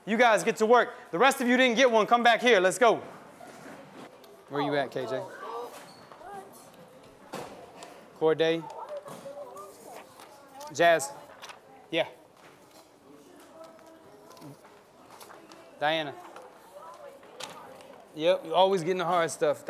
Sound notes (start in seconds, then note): 5.4 background noise as teacher hands out papers